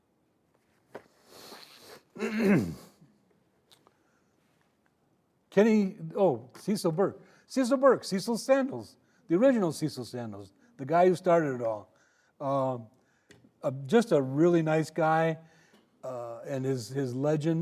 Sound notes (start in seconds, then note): 1.9 clearing throat